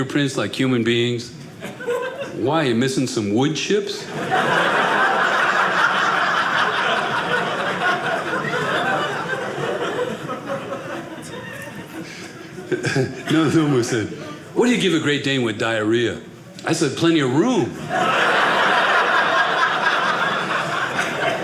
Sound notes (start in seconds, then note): 3.9 audience laughing; 17.7 audience laughing